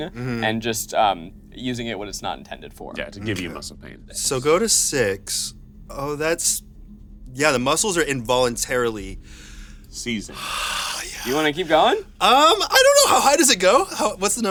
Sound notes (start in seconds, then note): 10.3 sighs